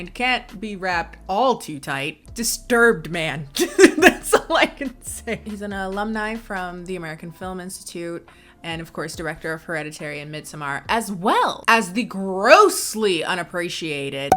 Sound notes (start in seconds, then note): 3.6 laughs